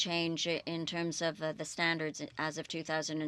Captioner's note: speaking French